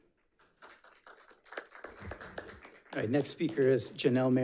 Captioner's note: audience clapping